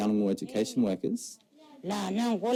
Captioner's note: foreign language